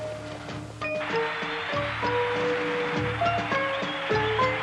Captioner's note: crowd cheering